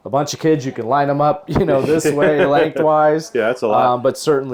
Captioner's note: laughs